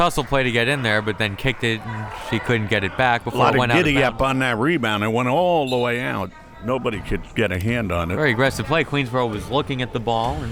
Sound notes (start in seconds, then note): 6.0 whistle tweeting